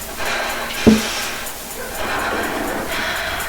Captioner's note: tapping